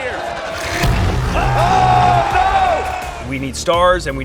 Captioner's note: announcer speaking; audience chattering; dramatic thudding; announcer shouting